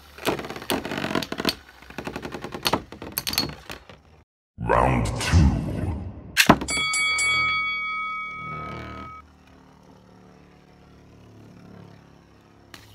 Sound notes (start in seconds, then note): 6.6 ding Ding Ding